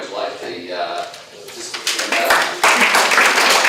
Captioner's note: applause